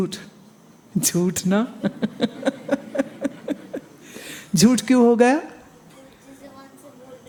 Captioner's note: giggles